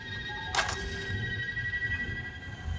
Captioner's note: match lights